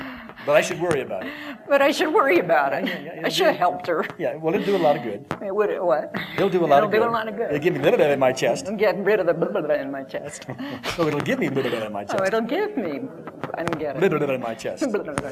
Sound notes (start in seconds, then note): 10.2 laughter